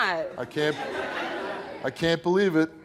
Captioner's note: laughing